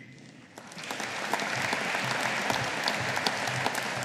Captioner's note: audience applauding